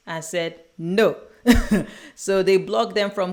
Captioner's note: chuckles